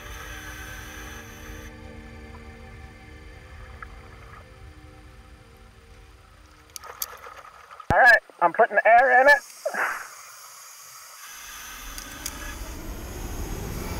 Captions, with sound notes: (carabiner clinks) All right, I'm putting the air in it. (air whooshes)